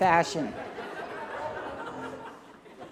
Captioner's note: laughter